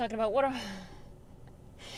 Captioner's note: sigh